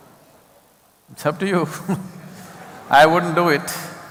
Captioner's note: laughter